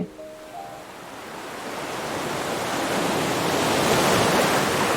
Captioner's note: ocean waves crashing